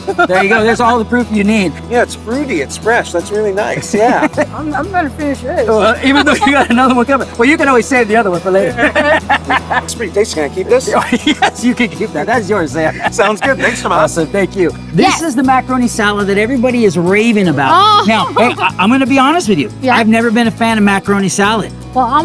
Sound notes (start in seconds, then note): 8.7 laughing